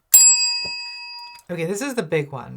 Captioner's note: bell rings